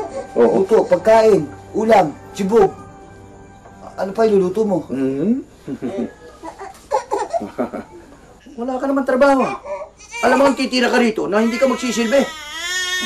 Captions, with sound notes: Cooking. Food. A meal. Some chow. What else will you do? [Dad chuckling] You don't have a job, right? You can’t just stay here and not serve us.